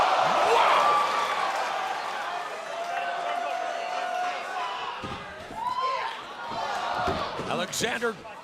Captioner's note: applause